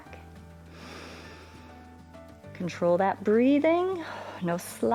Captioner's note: inhales